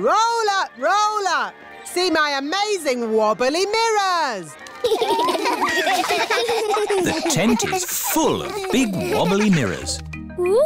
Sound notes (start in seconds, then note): 4.8 laughter